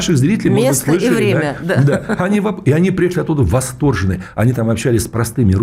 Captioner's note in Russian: смех